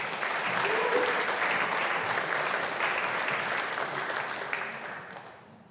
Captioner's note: audience applauding